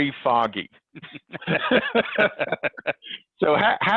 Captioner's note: both laughing